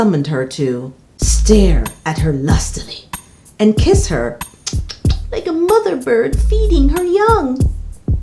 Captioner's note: kissing sounds